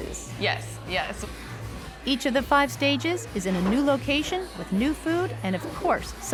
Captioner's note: none